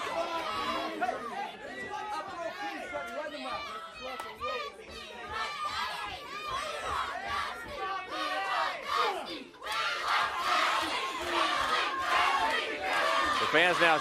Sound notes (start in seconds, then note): 0.2 crowd cheering; 2.5 crowd chatter